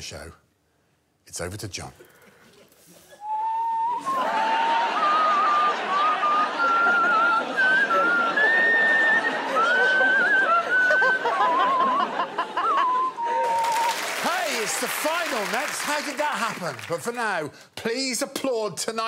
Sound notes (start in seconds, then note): 4.6 inhales; 5.4 whistles a tune; 13.0 laughter; 13.0 whistling continues